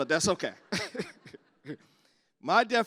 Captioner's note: laughter